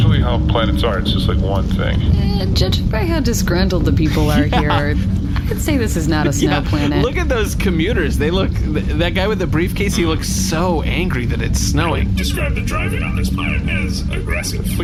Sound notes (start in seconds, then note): 6.5 laughing